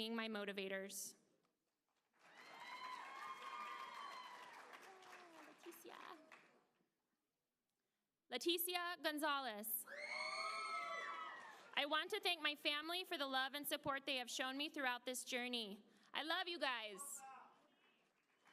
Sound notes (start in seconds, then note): 10.5 applause